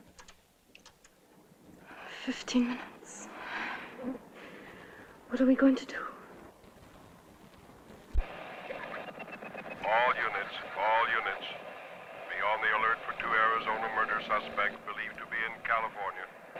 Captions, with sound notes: Fifteen minutes... [ SIGH ] What are you going to do? [ ON THE RADIO ] All units, all units. Be alert. We look after two murders suspect believe to be in California.